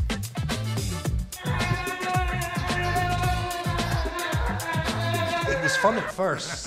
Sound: gleeful screaming

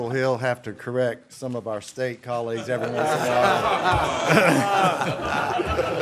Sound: laughter

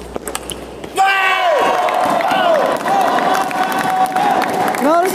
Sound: applause

